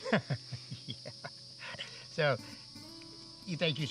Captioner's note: laughs